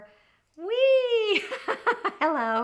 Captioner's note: exclaims; laughs